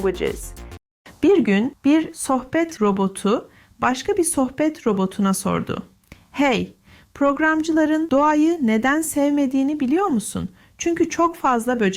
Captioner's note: Turkish